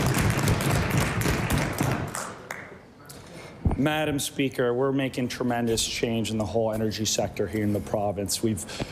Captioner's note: cheering/Applause